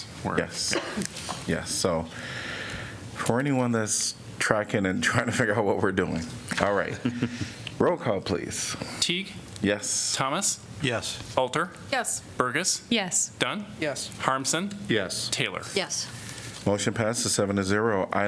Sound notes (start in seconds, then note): 6.8 laughter